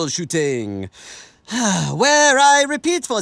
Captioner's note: sighs